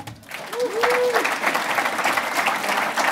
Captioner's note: applauding